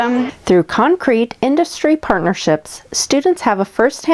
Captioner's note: voiceover